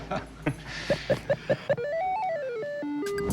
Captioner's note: chuckling; video game sounds